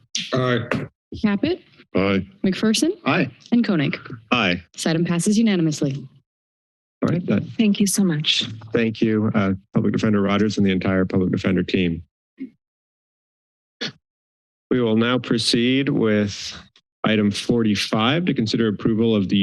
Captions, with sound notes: - Aye. - Caput? - Aye - McPherson? - Aye. - And Koenig? - Aye. - This item passes unanimously. - All right then. - Thank you so much. - Thank you, Public Defender Rogers and the entire public defender team. [silence] We will now proceed with item 45 to consider approval